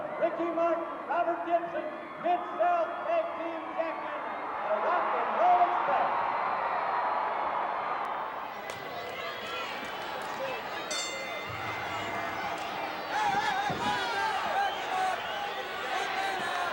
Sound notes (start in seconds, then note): 4.8 audience cheering continues; 10.9 bell ringing